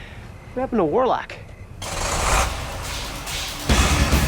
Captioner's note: car approaching; suspenseful music